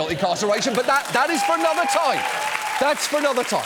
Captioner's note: audience cheers, applauds